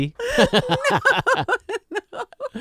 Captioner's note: laughing